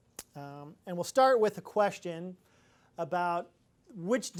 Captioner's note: none